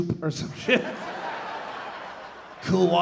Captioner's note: audience laughing